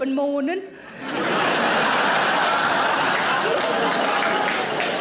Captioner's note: audience laughing